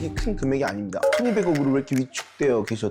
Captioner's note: no-big-deal sound effect